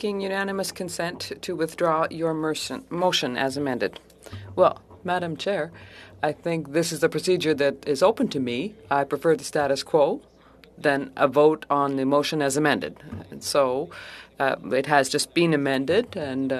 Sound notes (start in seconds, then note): 3.0 speaking in French